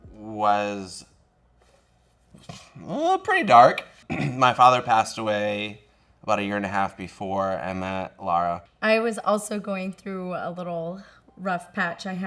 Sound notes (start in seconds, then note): 4.0 clears throat